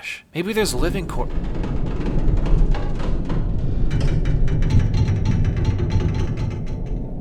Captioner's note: metallic creaking and tapping